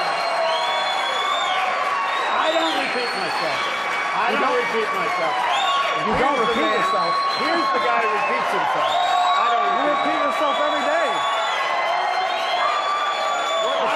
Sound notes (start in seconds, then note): 2.8 cheering